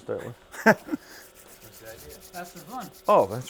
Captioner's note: man laughs